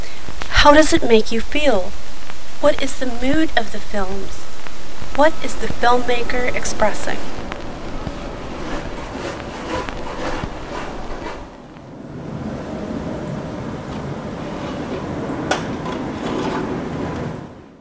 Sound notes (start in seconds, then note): 9.6 diegetic Audio: Dust scratches on a phonograph record, Snow Shovels on assault